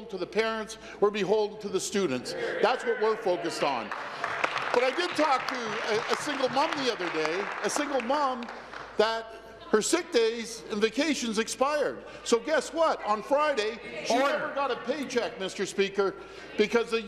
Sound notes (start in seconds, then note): 8.1 applause